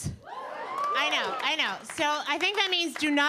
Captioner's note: audience cheering